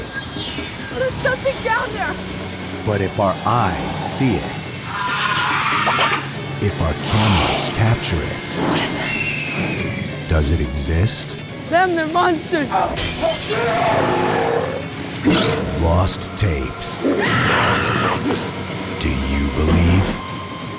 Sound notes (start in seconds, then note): 3.6 shrieks; 12.7 growls; 13.0 glass shatters; 17.0 woman screams